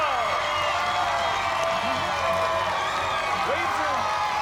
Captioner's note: cheers and applause